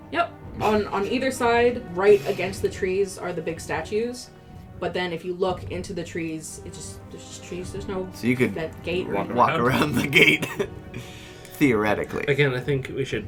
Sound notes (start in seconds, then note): 8.5 stumbling; 9.6 laughing